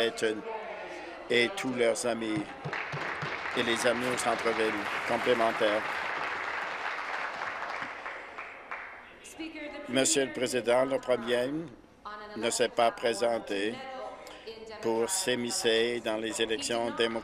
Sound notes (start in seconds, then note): 5.3 applause